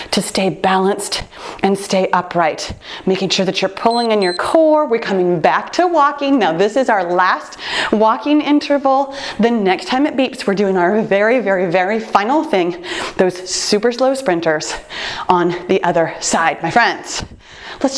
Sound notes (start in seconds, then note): 3.8 timer beeps